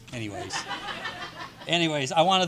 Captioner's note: audience laughing